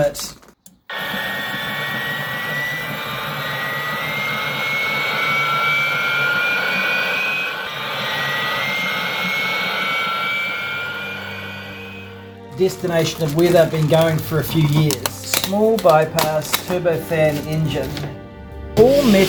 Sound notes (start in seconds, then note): 12.6 jet starts